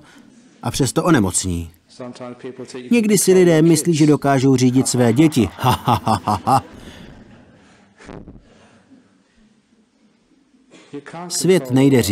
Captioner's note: laughter